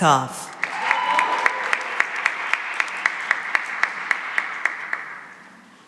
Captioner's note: cheering and applause